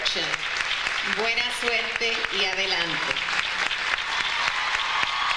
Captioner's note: audience applauds; speaking in foreign language; audience applauds